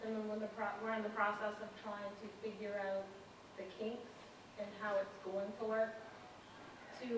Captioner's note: none